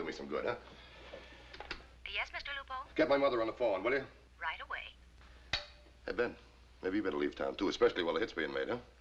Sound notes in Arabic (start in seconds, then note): 0.1 تعليق صوتي; 3.7 تعليق صوتي